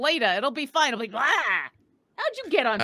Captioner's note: yells